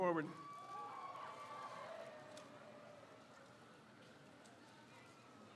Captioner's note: crowd cheers